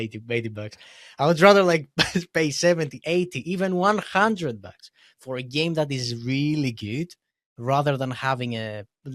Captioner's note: laughs; laughs